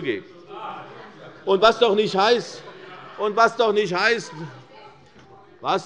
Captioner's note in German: Lachen bei der SPD